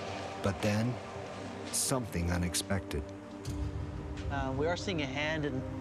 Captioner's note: voiceover